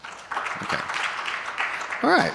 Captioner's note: audience applauding